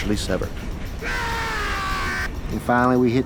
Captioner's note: man screaming